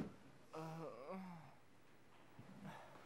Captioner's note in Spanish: Seth gruñe